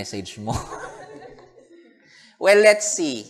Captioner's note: laughter